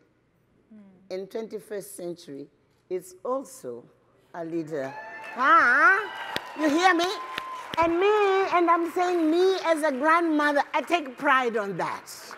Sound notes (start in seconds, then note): 7.3 applause